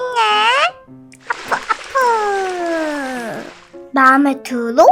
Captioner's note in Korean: 어푸 어푸